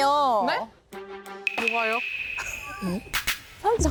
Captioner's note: innocent sound effect